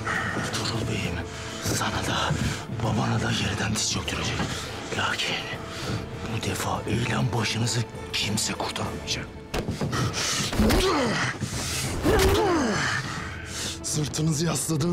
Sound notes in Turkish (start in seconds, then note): 10.4 Yumruk sesi